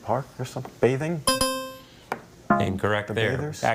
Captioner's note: bell blares